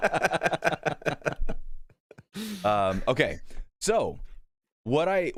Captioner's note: laughter